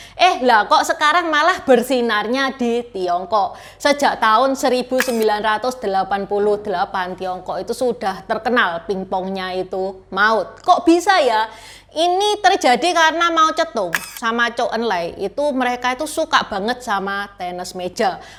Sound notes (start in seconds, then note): 9.5 ping pong